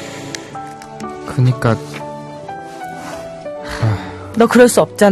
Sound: sighs

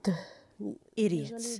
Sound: speaking Foreign Language

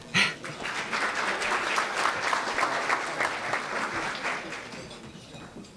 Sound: applause

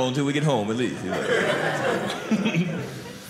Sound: audience laughing

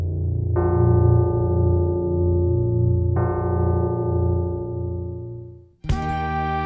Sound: bell tolling

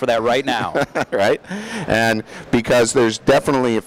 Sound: laughing

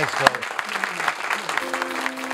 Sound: audience applauds; upbeat music

